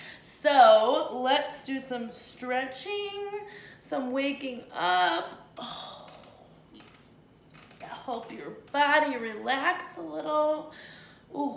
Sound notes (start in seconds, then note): 5.6 sighs